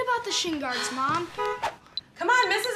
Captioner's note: car horn honking